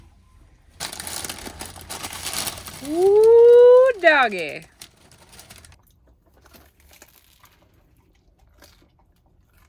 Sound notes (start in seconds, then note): 0.8 paper rustling; 5.8 pair munching